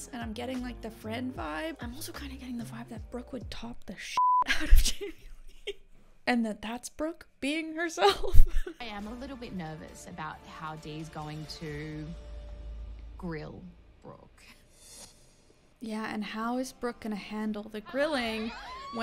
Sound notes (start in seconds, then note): 4.2 beeps